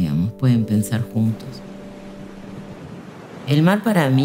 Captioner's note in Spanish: olas en el mar